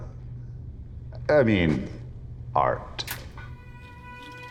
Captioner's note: click